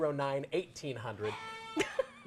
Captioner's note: sheep bleats; laughs